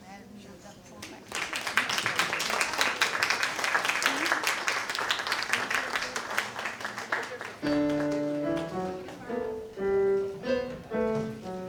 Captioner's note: applause